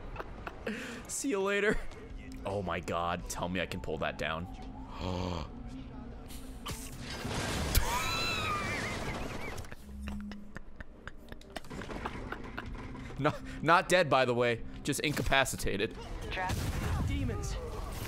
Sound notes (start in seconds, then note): 0.0 laughs; 4.9 gasps; 8.0 laughs